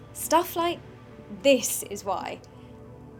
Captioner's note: none